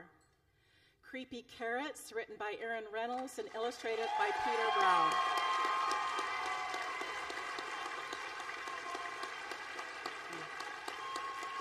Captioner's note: applause